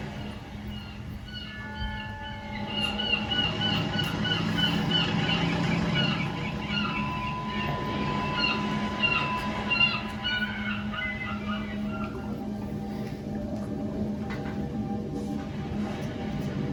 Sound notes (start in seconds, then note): 0.1 birds chirp; 1.3 bell rings; 13.6 suspenseful music